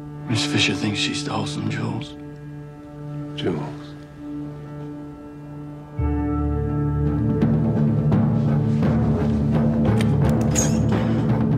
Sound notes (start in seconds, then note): none